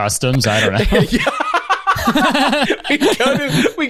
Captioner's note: laughs